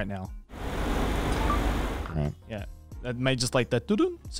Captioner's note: phone beeps